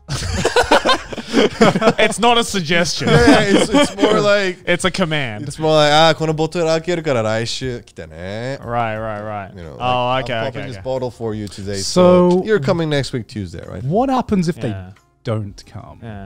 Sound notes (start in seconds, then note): 0.0 all laughing; 6.1 speaking in foreign language